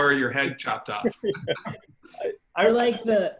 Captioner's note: laughing